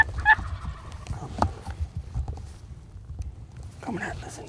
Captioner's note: turkey gobbling